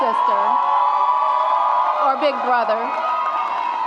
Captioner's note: audience applauds and cheers